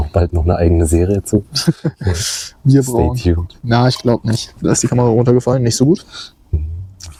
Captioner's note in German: gelächter